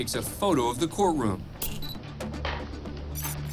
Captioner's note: camera clicks, beeps